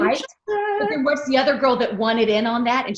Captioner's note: singsong voice